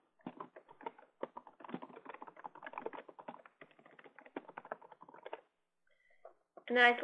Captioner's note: typing Sounds